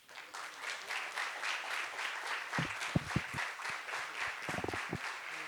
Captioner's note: applause